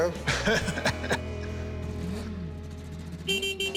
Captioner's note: engine revs; laughs; car honk beeps